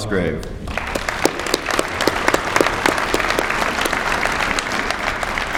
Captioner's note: applause